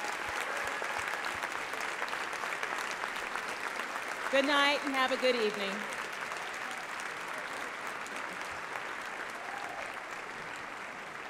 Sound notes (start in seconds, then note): 5.7 applause